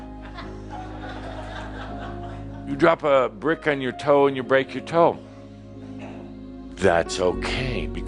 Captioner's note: some chuckles